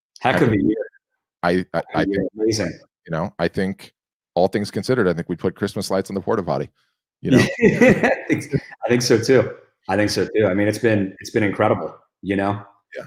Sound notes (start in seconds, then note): 7.3 laughs